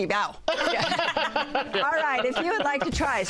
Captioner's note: laughter